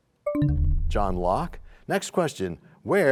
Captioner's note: bell chimes, time expires